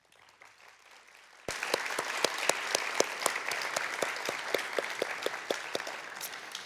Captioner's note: applause